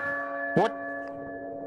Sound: bell tolling

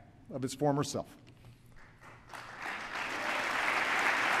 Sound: applause

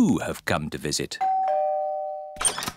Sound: doorbell rings

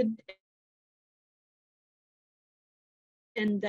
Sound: audio goes off

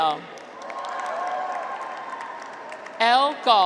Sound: graduates cheer

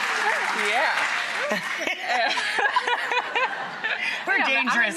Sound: laughter

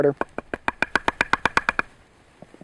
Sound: knocking

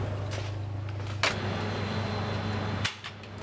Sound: cooling whirring

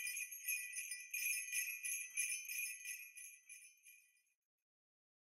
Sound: christmas bells

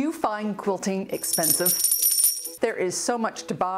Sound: coins clinking

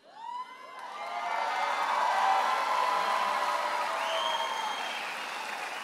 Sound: audience cheering and applauding

